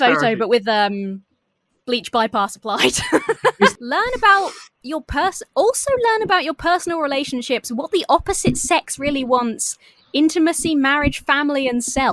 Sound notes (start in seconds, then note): 2.7 laughs